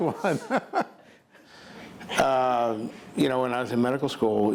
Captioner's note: laughing